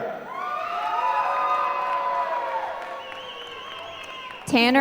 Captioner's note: applause